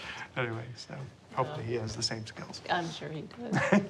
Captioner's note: laughter